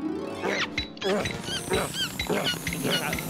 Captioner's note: panting; air hose squeaking